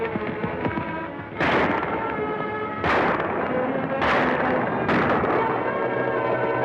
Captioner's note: gunshots